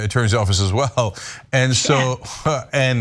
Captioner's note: laugh